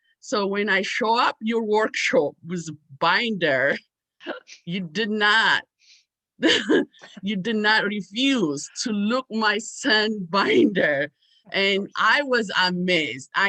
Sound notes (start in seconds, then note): 5.4 laughs